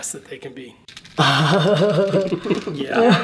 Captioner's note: laughing